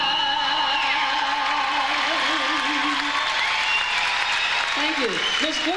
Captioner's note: audience cheers; audience applauds